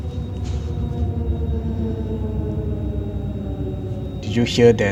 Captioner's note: train rumbling